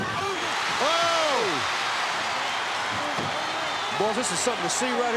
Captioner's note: applause